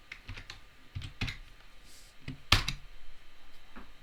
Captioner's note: keys tapping